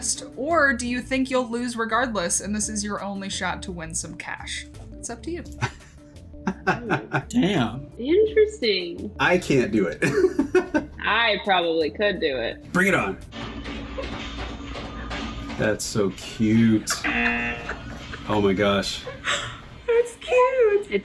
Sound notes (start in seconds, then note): 6.4 laughs; 10.3 laughs; 16.8 laughs; 17.0 buzzer